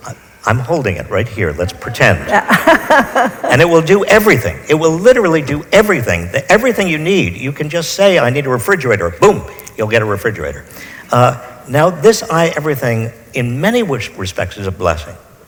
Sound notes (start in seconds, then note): 1.6 laughs; 1.7 audience laughs